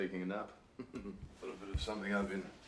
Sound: chuckles

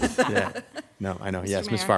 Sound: laughs

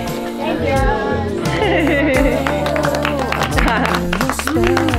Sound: applause

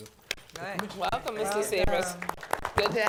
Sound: applause

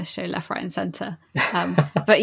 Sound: laughs

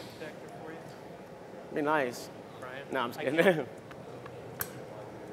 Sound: laughter

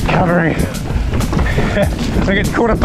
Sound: laughs

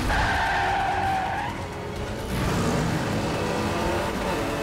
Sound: tires squealing

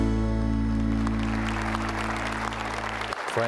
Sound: applause

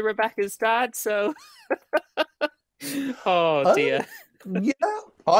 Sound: laughs

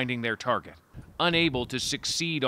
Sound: bombing

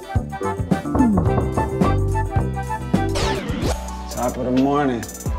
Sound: cheerful music; hand knocks

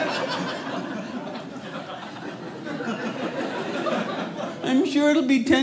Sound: audience laughing

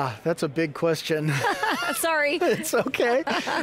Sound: laughs

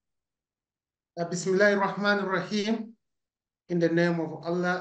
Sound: speaking in Arabic

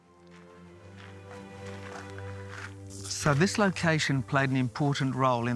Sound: gentle music; gravel crunching

